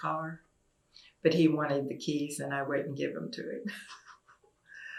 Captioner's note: laughs